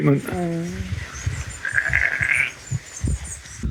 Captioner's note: sheep Baaing